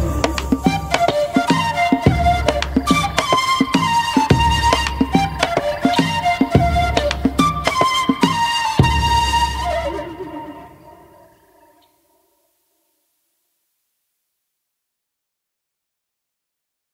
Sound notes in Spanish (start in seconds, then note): 0.0 música tropical; 10.2 pájaros trinando